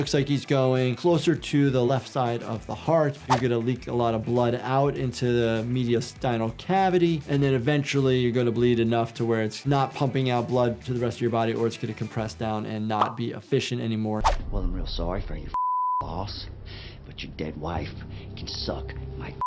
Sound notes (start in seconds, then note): 15.5 beep; 18.8 beep